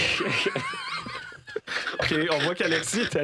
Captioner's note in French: rires